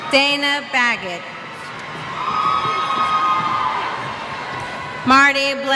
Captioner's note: cheers